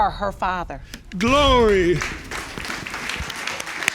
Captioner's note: audience clapping